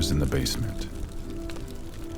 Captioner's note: fire crackles